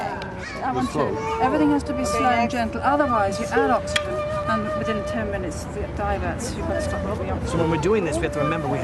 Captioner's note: classroom noise